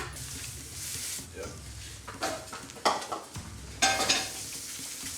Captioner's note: plates clanging